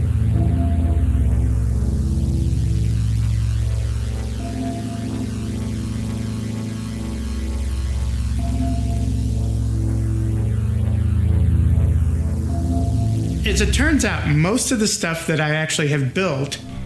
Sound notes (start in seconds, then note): 0.5 bell chimes; 4.4 bell chimes; 8.5 bell chimes